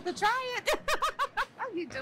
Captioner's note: laughs